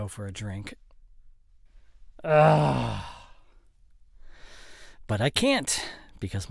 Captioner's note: sigh